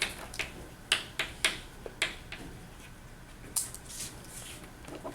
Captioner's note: chalk clicking on board